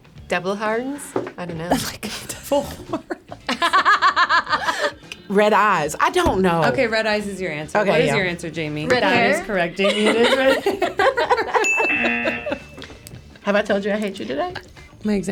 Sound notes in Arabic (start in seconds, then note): 1.7 يضحك; 2.8 الجميع يضحكون; 11.3 يضحكون